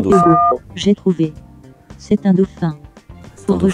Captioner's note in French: son de touche de téléphone